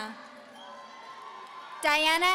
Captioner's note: audience cheering